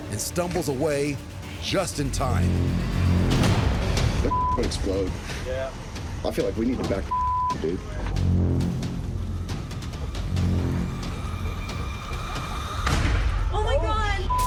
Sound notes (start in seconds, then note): 12.8 explosion